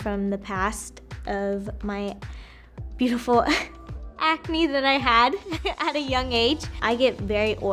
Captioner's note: chuckles